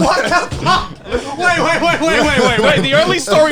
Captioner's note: men laughing